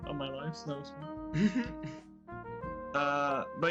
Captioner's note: chuckles